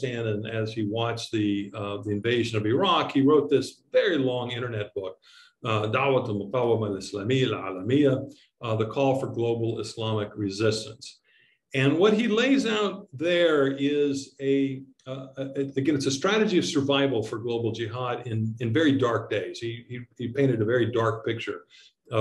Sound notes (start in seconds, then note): 5.6 speaking in foreign language